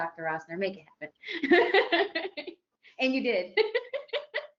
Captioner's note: laughs